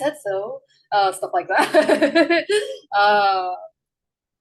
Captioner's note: laughs